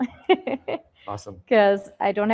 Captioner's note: laughs